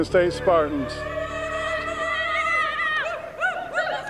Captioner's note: all yell